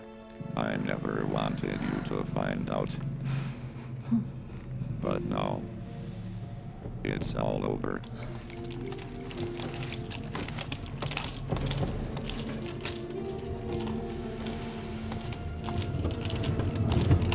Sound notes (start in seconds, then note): 3.2 whimpers